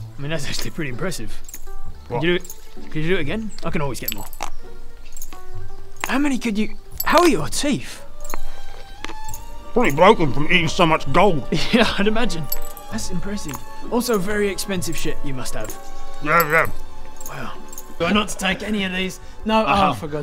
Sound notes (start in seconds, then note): 4.4 impressively stupid crunch